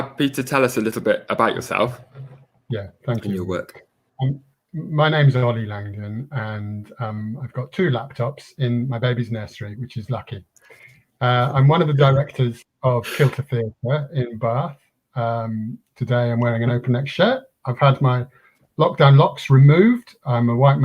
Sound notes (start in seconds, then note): 13.0 laughs